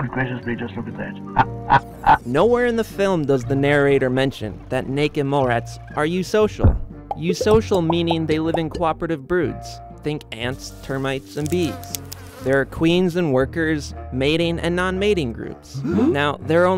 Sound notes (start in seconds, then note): 1.8 laughing; 11.6 buzzing; 15.8 gasping